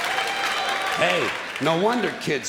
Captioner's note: clapping and laughing